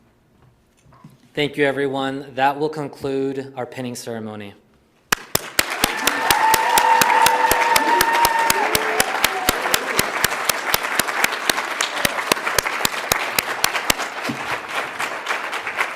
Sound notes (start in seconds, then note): 5.1 audience applauds; 5.5 audience cheers